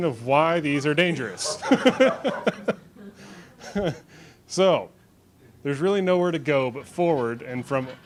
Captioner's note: laughs